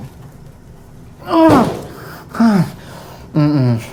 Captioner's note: Miles groans and pants